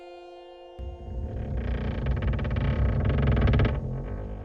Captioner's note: wood creaking